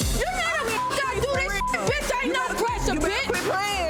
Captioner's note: beep; overlapping chattering